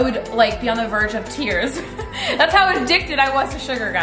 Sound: laughing

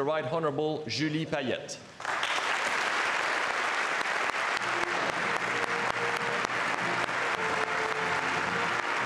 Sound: speaking French

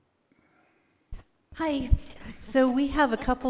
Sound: attendees chuckling softly

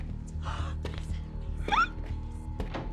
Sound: squealing

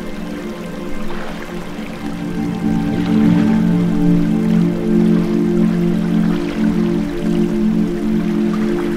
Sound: water, nature sounds; water, eerie music

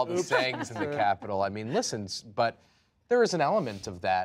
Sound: laughter

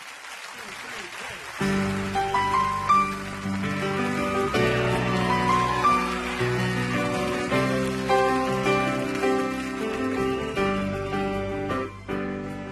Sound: audience cheering

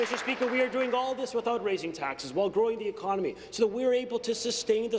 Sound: applause

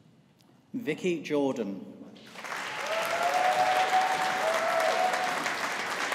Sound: audience applauding

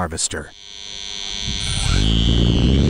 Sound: 50Hz vibration continues; propeller noise

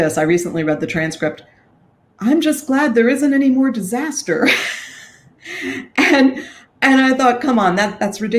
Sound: chuckle

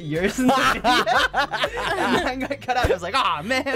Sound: laughing

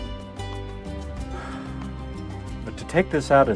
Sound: sighs

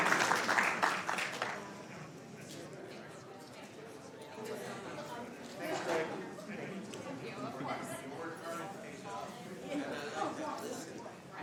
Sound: applause

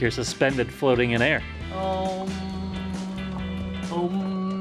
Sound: makes an "ommm" noise

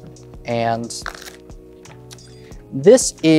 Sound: cards riffling

